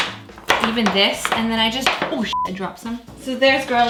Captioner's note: beep